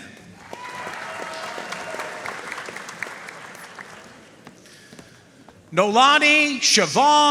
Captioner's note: audience cheering and applauding